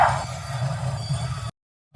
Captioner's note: train brakes screeching